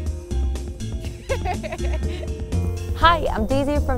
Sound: giggling

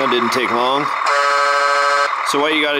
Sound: honking

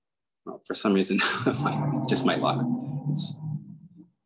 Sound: chuckles

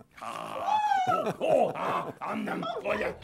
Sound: Broccoli screams

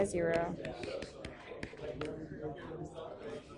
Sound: tapping; chatter

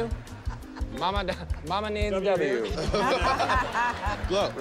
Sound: laughter

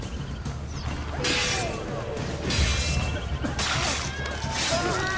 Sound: fighting sounds

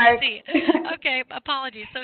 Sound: laughing

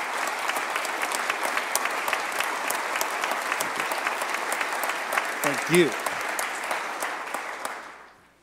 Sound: applause

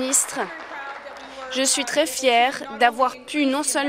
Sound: applause

